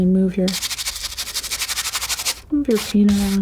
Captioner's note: scratching